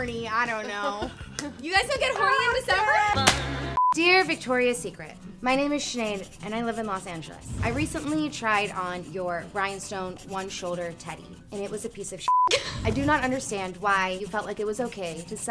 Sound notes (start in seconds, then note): 12.2 beep